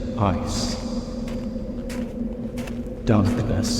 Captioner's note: wind blows